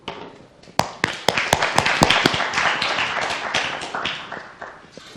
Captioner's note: applause